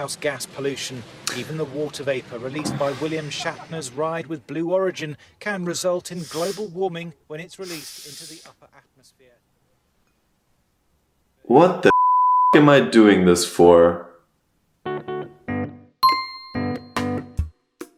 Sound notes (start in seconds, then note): 11.9 beeeep; 13.9 intro music